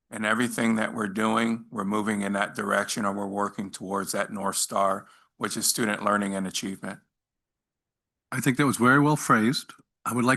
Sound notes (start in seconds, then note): none